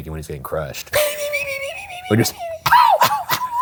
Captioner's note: imitates whistling